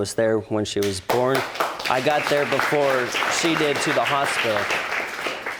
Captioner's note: audience applauding